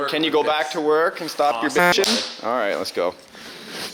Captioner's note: horn honks